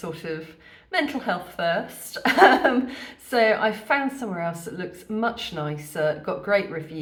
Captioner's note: laughing